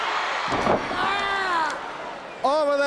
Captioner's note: Flair screams